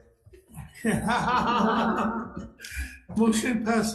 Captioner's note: laughing